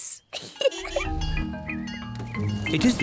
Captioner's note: giggles